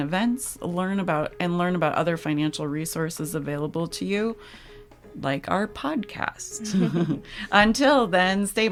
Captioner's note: laughs